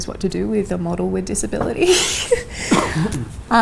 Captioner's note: laughs